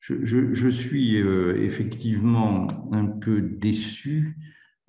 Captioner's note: speaks in foreign language